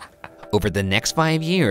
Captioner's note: laughing